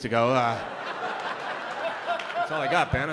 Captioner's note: laughter